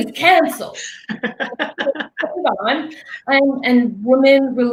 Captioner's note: laughing drowns